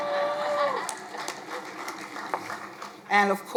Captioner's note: crowd applauding